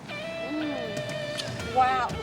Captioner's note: lips smacking